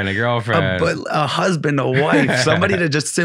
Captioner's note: laughing